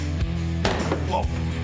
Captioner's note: cracking